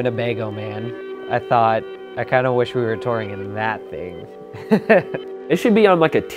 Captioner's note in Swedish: skrattar